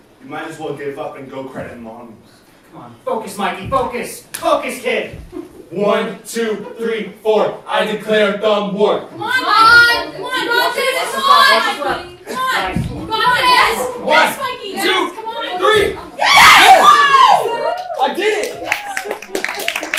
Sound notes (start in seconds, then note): 9.2 crowd clamoring; 17.2 crowd cheering. Applause